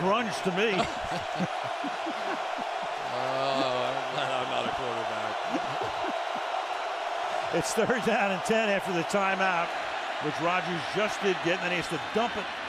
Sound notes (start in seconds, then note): 2.5 laughter; 6.0 laughs